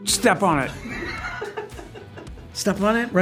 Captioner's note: laughs